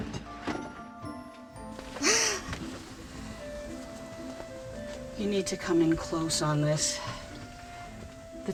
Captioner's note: gasps